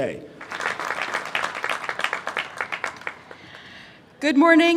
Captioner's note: clapping